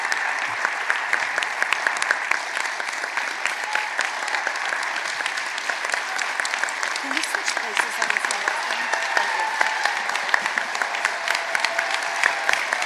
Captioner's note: applause